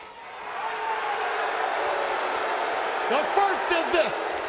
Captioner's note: crowd booing